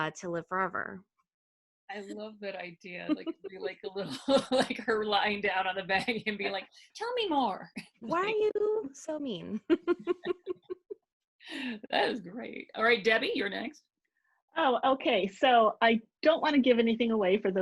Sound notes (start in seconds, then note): 3.1 laughing; 9.6 laughing